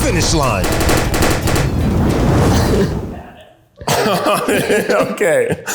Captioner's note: balloon popping sound effect